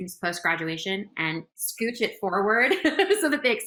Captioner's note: laughs